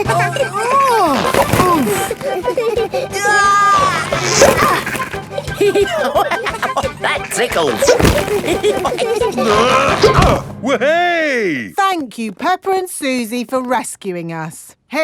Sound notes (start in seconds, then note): 0.2 giggling; 0.2 grunting; 3.1 giggling; 5.8 laughing; 8.5 all giggling; 9.3 grunting